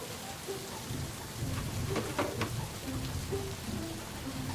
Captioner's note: rain falling; light music